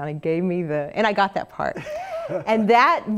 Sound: laugh

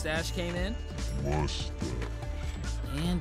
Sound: deep voice

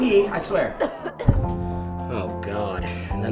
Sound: woman coughing

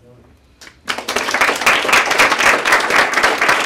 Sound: applause

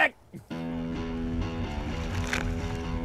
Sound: chuckles

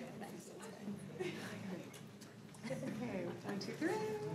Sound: crowd chattering

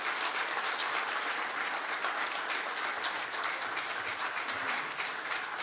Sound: audience clapping

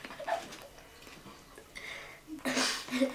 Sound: kid chuckles

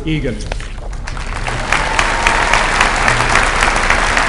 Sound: applause

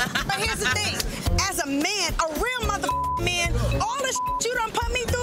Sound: group laughing; beep

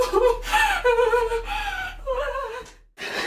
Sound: crying

